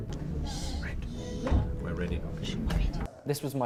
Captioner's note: shushing